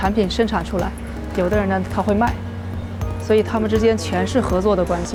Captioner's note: speaking foreign language